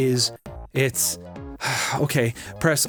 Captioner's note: sighs